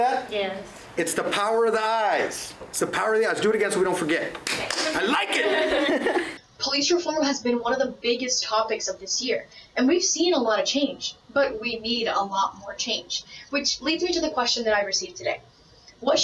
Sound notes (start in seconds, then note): 4.4 claps